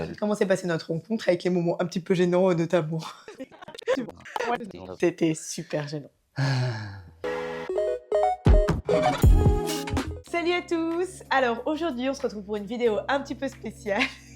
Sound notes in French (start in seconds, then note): 9.0 Soupir